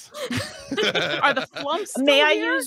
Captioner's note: group laughs